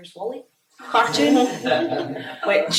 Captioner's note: all laugh